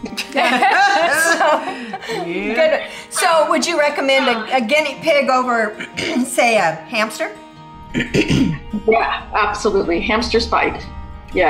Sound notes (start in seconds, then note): 0.0 ladies laugh; 7.9 clears throat